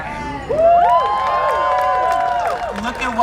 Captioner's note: crowd cheering and applauding